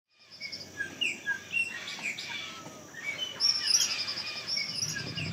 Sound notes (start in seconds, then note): 0.1 tropical birds